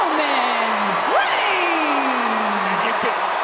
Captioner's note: crowd boos